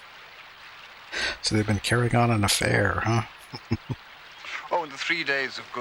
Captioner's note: chuckling